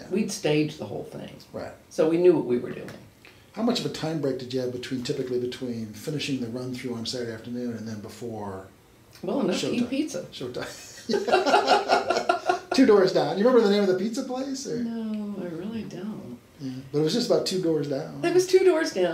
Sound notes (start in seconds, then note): 11.0 laughs